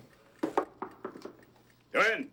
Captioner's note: knocking